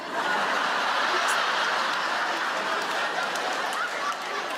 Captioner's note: audience laugh